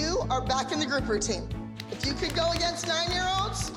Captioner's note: applause